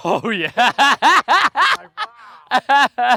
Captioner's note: laughs